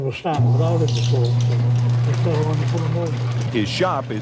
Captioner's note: engine hum drowns out